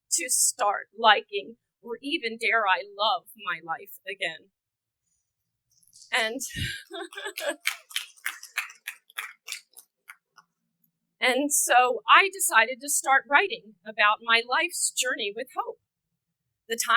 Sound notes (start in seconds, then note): 6.4 chuckling; 6.6 audience clapping